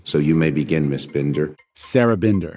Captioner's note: soundbite of archived recording